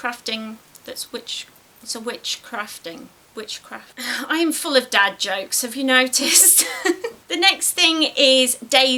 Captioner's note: laughs